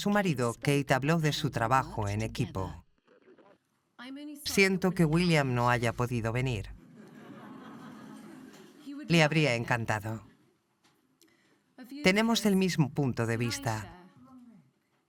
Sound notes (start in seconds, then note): 6.8 audience chuckles